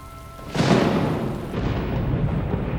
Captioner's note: rain pattering; thunder rumbling